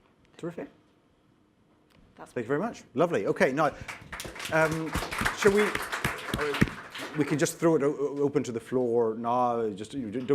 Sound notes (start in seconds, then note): 3.6 applause